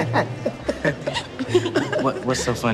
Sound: Nina and Jemma laughing

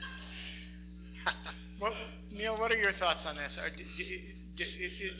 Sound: laughs

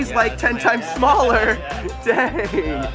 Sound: laughs

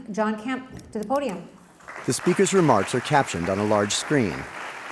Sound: applause

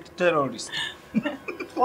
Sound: laughter

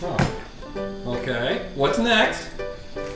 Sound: voiceover

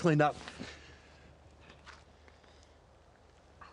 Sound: none

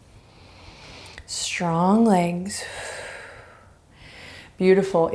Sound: exhaling strongly

